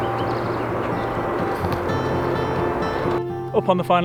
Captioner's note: birds chirping; gentle acoustic music